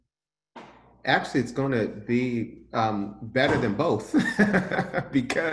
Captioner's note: laughing